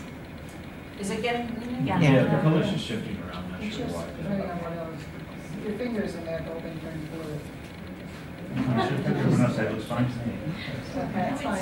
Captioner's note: murmuring as image is adjusted